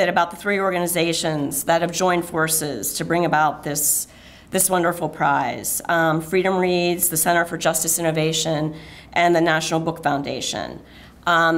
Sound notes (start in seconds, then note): none